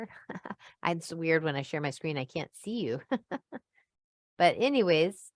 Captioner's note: laughs